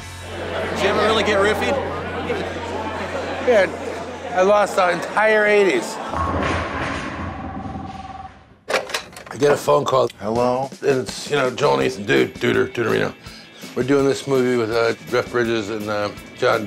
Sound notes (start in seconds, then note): 0.0 crowd sounds up; 6.0 bowling sounds; 6.0 phone rings